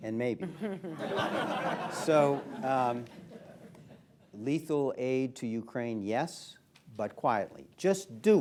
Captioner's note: laughter